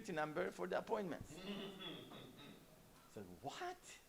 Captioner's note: laughs